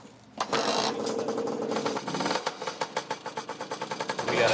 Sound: engine starts

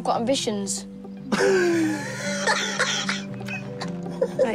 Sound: laughs

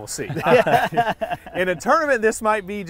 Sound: laughing

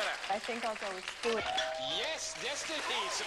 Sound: ding

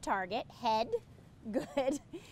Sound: laugh

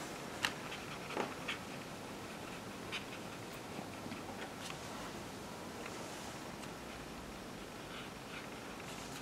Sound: paintbrush sweeping noises

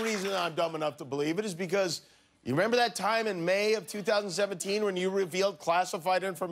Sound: cheers and applause

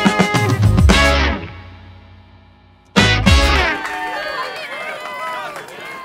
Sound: finale, crowd cheers and applauses

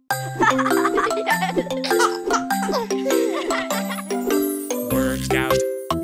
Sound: children laughing

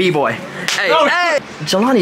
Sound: hands clap

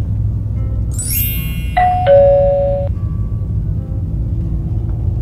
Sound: notification bell; background music

